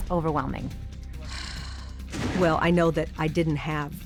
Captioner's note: sighs